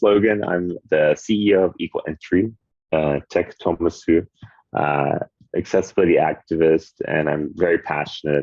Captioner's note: speaking Japanese